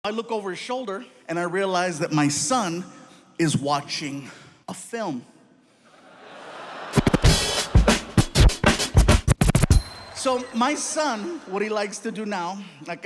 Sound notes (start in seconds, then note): 6.0 audience laughing; 6.9 hip hop music